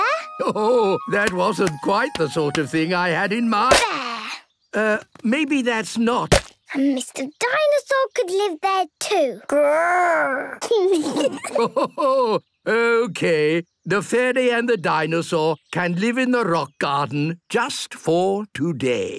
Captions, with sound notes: - Ho-ho! That wasn't quite the sort of thing I had in mind. - There! - Uh, maybe that's not-- - And Mr. Dinosaur could live there, too. - Grrr! (kids giggling) (Grandpa laughing) - Okay, the fairy and the dinosaur can live in the rock garden just for today.